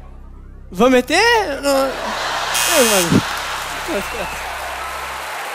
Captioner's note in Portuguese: campainha